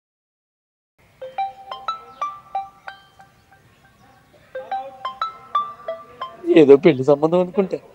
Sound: phone ringing

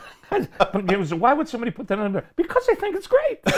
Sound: murmurs

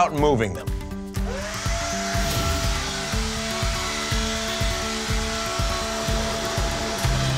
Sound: blower running

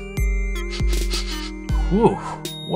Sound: sniffing sounds

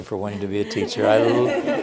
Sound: laughing

